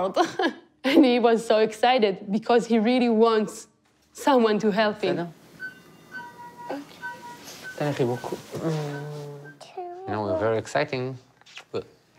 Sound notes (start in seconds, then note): 0.1 chuckles; 5.4 machine beeps; 7.0 mumbles; 8.0 speaks in foreign language; 9.7 mumbles